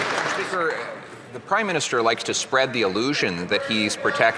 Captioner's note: some Applause